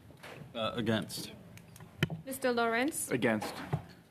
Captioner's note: speaking French